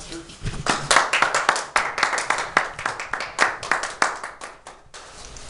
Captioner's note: audience clapping